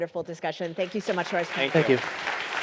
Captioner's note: audience applauds